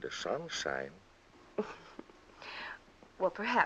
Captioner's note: chuckles